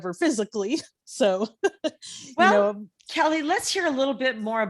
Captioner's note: laughing